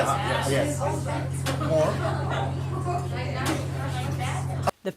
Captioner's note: diners chatting